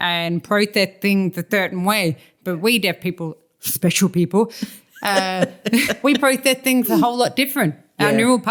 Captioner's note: laughter